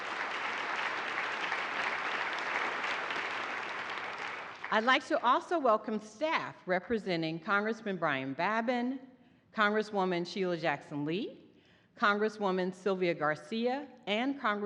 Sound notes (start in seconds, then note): 5.2 applause